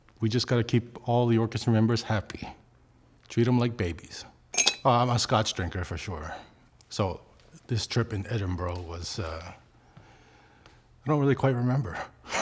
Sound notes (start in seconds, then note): 4.5 ice clinks